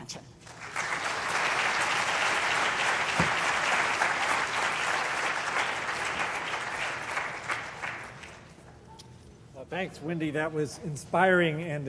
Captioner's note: applause